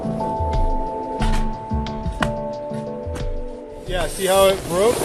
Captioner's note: wind blowing